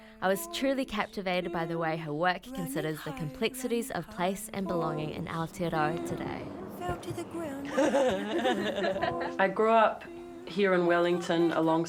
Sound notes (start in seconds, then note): 7.7 chuckles